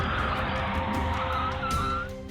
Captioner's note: tires squealing